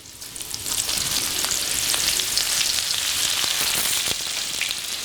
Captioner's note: sizzles